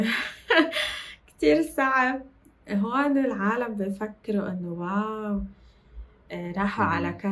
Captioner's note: laughs